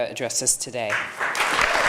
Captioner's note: applause